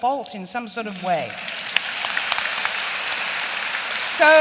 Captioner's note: applause